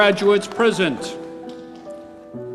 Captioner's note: applause